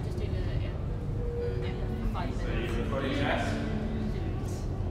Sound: crowd murmuring

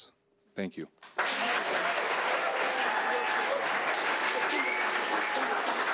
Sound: audience applauding

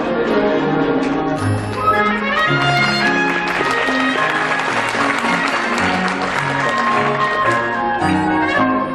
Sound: audience applause

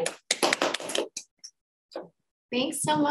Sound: audience applauding

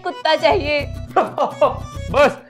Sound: Santa laughing

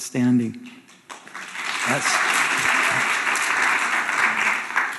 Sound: audience applauding

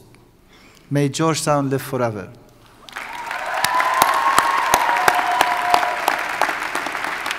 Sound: audience cheers and applauds

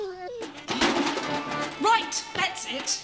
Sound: bucket clatters; whining

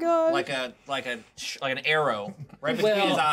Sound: speaker chuckles

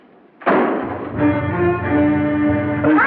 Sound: door Closes

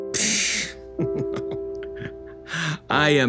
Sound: chuckles

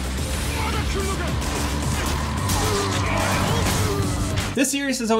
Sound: characters yelling; gun firing

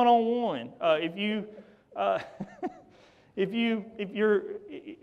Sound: laughs

